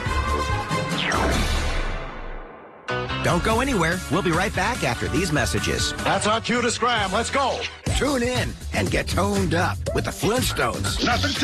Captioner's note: air whooshes